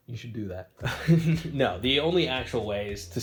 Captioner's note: chuckles